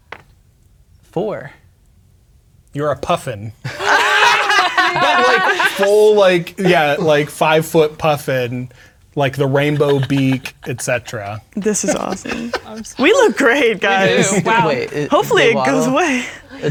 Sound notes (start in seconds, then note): 0.1 dice rolling; 3.6 all laughing; 3.6 players laughing; 12.0 laughing